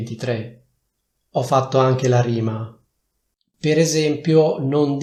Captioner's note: in Italian